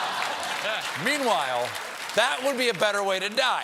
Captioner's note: cheers and applause